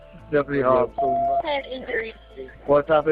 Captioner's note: beep